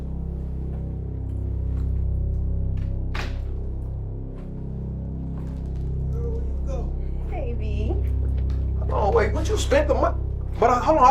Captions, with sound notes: (door clatters) (tense music) - Girl, where'd you go? - Hey baby. - Hold on, wait, what? You spent the money?